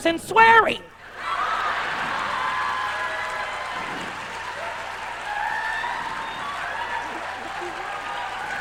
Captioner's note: sustained laughing and cackling; laughing